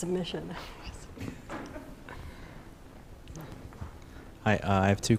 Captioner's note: chuckling